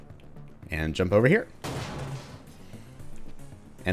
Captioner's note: smashes vent